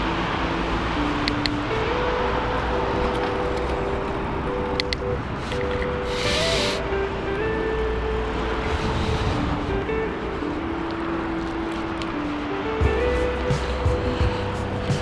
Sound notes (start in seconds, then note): 3.7 wind Blowing